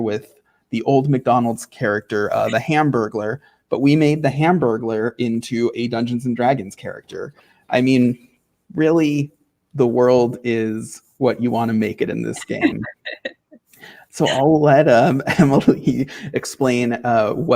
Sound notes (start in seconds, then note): 12.3 laughing